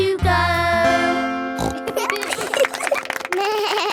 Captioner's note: snorts; laughing; bleats and laughs